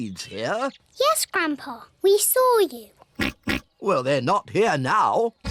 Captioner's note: oinks